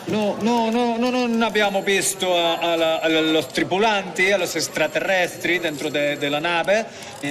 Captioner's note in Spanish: habla en italiano